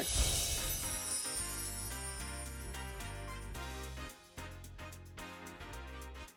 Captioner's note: chimes tinkling; upbeat music